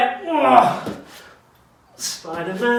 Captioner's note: grunts